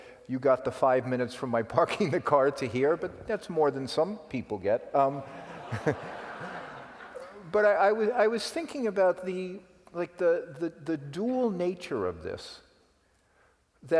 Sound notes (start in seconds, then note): 5.2 laugh